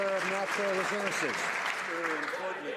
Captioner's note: some Applause